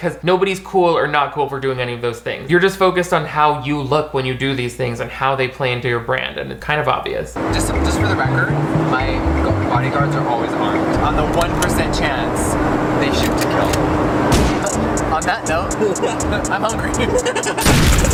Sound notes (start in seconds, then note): 13.5 sound of a gun cocking and firing; 15.4 people laughing; 17.6 gunshot firing